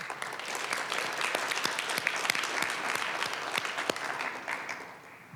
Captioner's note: applause